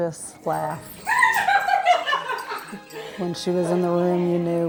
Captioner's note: laughs